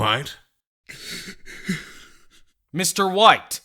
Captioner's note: sobbing